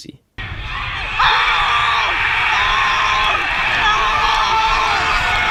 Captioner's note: screams